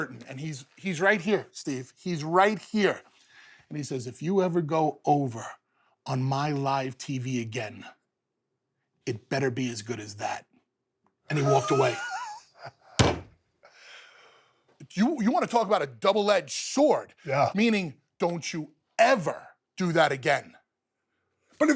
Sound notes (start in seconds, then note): 11.3 Stone Cold laughs